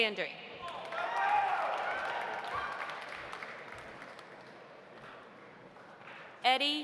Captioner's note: audience cheering; audience applauding